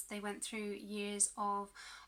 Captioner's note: none